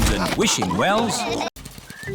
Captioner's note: all laughing